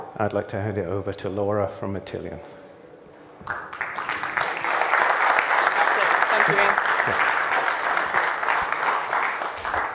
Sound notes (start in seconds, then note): 3.4 applause